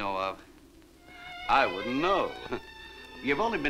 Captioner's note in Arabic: يضحك